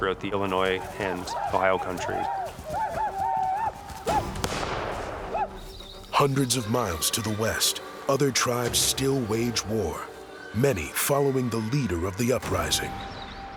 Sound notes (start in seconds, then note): 2.3 war cries; 4.1 gunshot